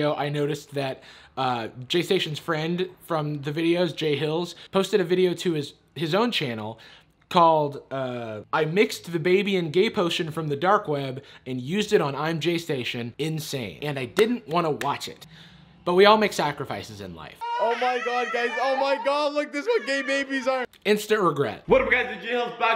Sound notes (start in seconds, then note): 13.7 clapping; 17.4 baby crying